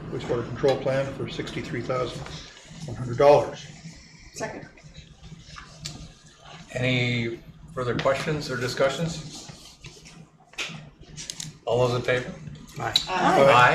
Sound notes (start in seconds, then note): none